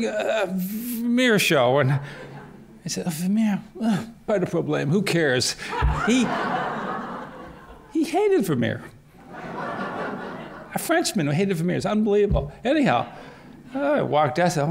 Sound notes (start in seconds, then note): 5.6 laughter